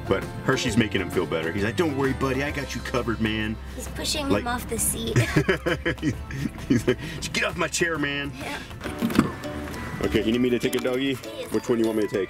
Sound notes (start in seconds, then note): 5.1 laughs